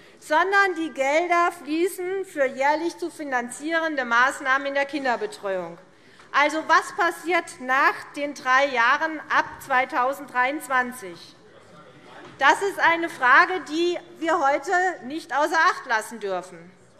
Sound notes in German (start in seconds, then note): none